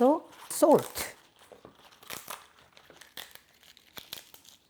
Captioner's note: bok choy rustling